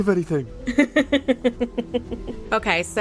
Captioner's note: laughs